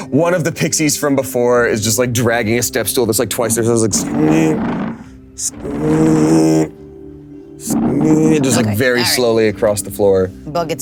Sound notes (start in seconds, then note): 3.9 stool rumbling